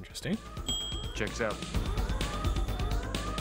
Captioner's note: ding!